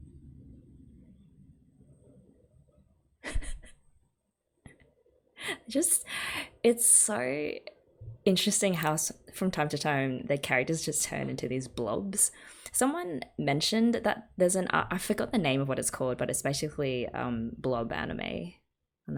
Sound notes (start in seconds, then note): 3.2 laughs